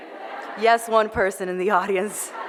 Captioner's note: laughter